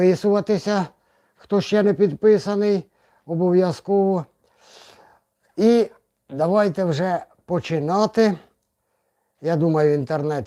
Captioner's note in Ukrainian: сопіння